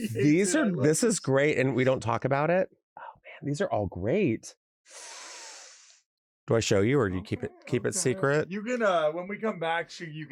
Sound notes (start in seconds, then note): 4.9 inhales sharply